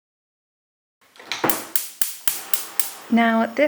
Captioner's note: gas oven clicking as the stove lights